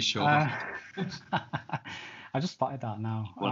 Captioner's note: laughs